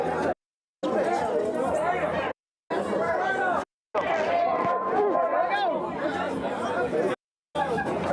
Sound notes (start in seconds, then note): 2.7 crowd talking